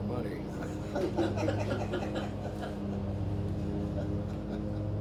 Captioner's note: everyone laughs